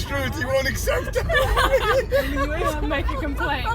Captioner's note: hysterical laughter